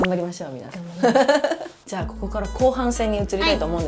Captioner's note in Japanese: 笑い